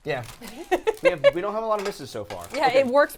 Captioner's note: laughing